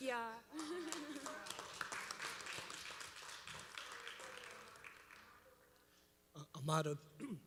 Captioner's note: applause